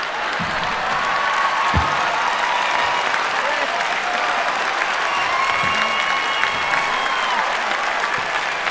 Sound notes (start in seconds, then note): 1.7 cheering